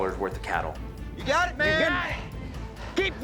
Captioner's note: cowboys shout encouragement